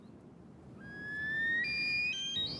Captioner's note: snowcocks calling loudly